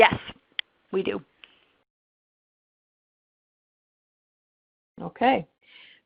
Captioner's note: silence